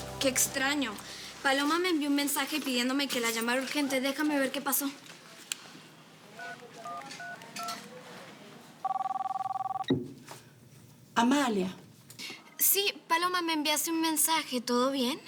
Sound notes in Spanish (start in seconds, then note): 5.4 Sonido al marcar números; 8.8 Suena el teléfono